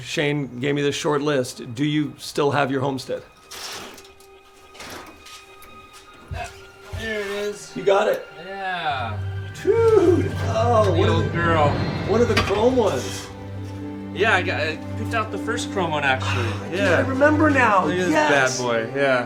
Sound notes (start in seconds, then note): 9.6 exclaiming